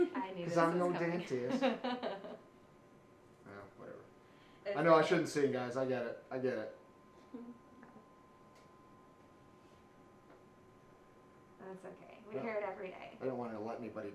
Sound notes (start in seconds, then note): 3.1 laughs